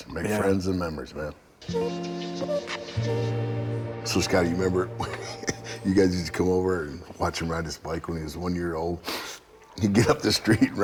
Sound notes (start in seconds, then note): 1.6 bright rhythmic music; 4.9 laughing